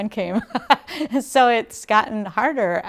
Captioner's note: lady laughing